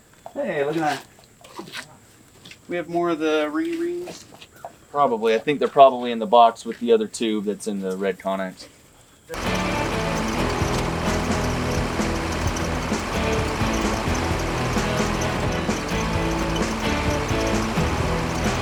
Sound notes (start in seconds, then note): 9.3 machinery in Background; 9.4 upbeat Music